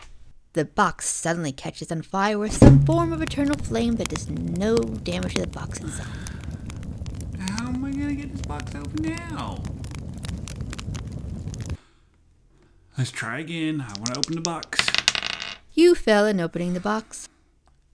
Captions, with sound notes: -The box suddenly catches on fire with some form of internal flame that does no damage to the box itself. -How am I going to get this box open now? Lets try again, I want to open the box. *sounds of dice being shaken and thrown* -You fail at opening the box.